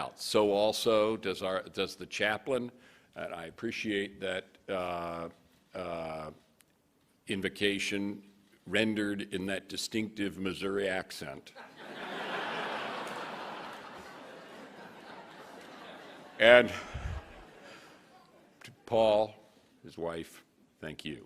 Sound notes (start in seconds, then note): 11.6 laughing